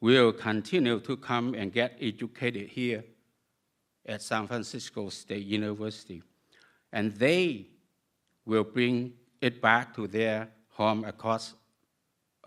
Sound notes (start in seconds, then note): none